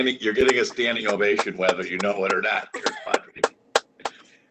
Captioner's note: applause